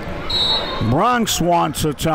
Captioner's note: whistle blows